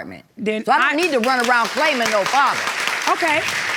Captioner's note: audience clapping